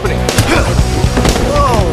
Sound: groan

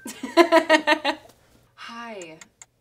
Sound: laughs

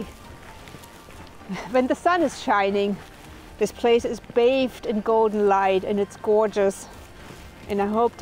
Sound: laughs

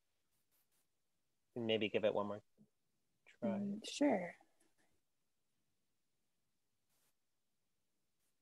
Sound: silence

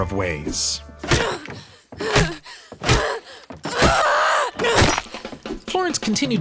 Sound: screaming

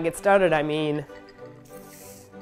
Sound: sipping

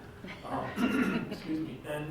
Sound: clears throat

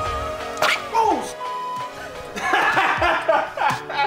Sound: beep; laughing

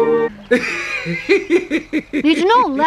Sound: Snufkin chuckles heartily

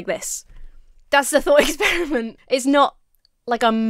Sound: chuckles

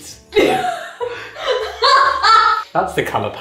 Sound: laughing

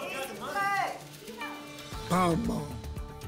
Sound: audience shouting games

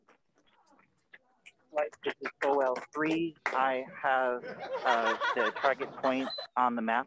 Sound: scientists laughing

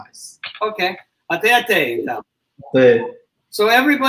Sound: speaks portuguese

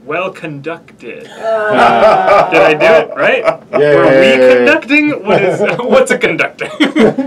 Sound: groans

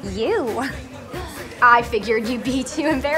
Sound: chuckles

